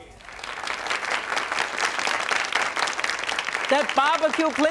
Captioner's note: audience clapping